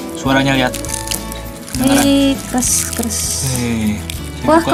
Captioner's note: crunch